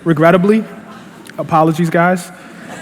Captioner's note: laughter